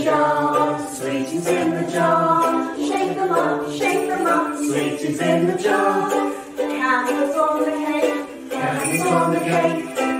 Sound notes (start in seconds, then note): none